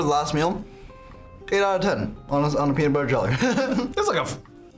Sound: laughs

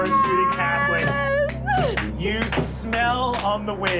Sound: clapping

